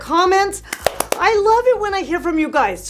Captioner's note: hand clapping